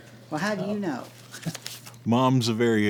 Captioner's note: Jerold chuckles